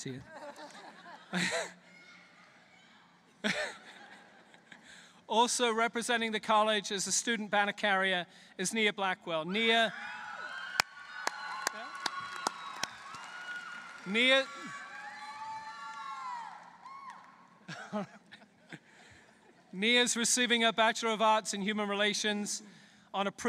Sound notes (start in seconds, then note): 0.2 laughter; 10.7 applause; 17.6 laughter